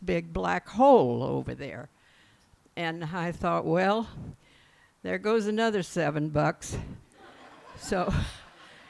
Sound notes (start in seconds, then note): 7.2 laughs